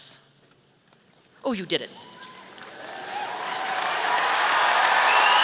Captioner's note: audience cheering